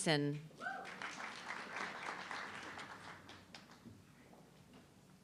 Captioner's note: audience clapping